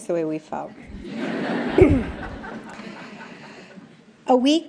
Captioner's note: laughter